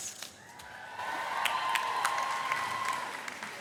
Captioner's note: cheering